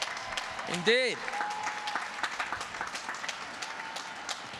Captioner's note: applause